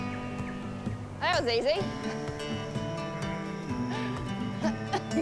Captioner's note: chuckles